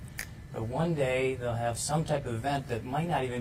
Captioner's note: snaps finger